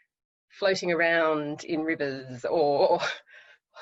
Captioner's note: laughs